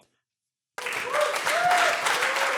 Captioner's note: audience applauds